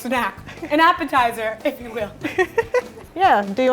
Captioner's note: laughing